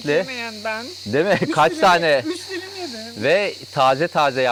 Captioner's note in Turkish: kahkaha